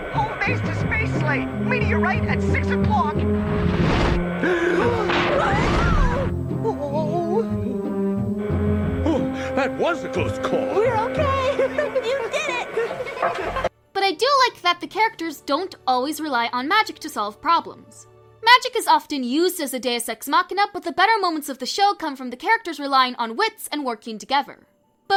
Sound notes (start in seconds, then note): 4.4 gasp